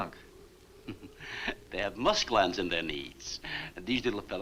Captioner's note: chuckles